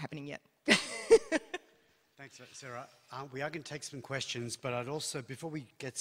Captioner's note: laughs